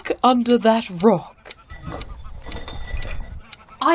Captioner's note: sounds of a rock moving